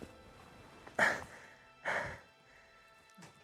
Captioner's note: sighs